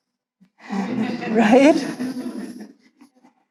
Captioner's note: audience laughs